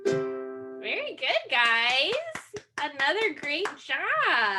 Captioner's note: claps